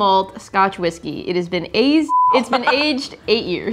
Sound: beeping

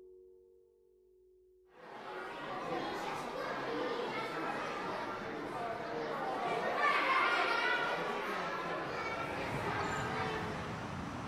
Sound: children talking

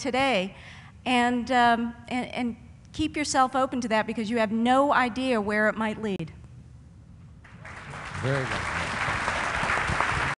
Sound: applause

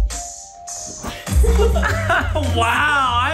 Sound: laughing

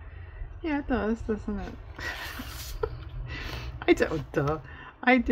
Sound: laughs

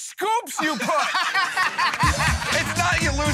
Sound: laughing

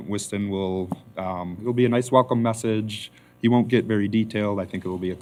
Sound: none

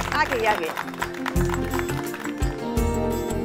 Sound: clapping

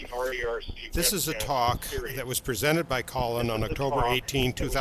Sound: voiceover

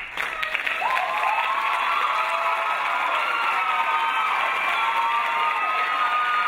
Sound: crowd applauding; crowd cheering

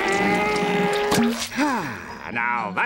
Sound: sighing

